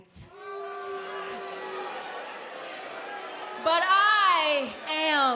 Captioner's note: crowd cheering